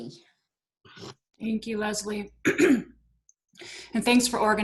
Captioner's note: clears throat